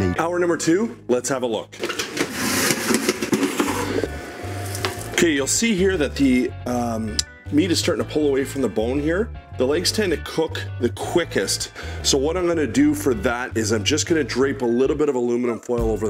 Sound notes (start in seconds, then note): 1.7 pan scrapes